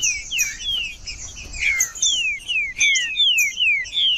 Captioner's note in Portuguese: trinca ferro cantando